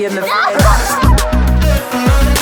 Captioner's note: laughter